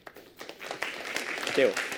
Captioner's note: applause